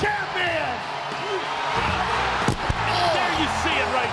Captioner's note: applause